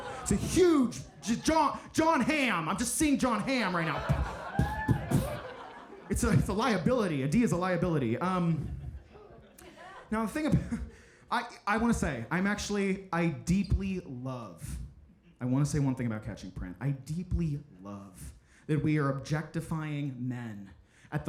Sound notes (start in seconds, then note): 0.0 audience laughing; 8.3 audience laughing